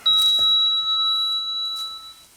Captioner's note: elevator sound